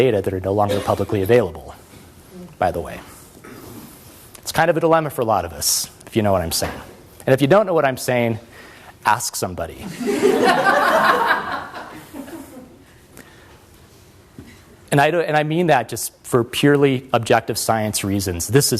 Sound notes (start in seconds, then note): 9.8 laughter